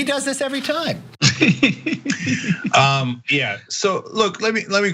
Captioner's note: laugh